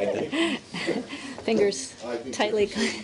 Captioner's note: laughter